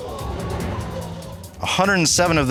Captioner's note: audience exclaiming